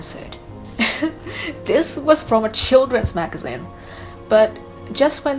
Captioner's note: laughs